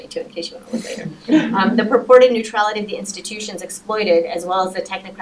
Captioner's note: laughter